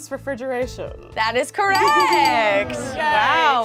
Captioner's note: bell dinging